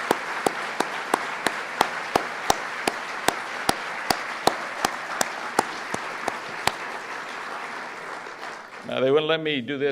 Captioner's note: applause